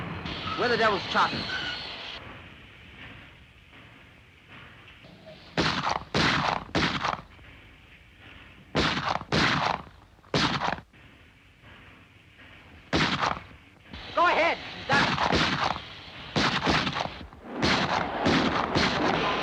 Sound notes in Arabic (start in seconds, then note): 0.0 طحن الفرامل; 5.5 طلقات نارية; 8.7 طلقات نارية; 12.9 طلق ناري; 16.2 طلقات نارية; 17.4 اطلاق نار; 19.2 صوت القطار وهسهسة البخار